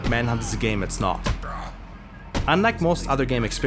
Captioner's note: thuds and yelps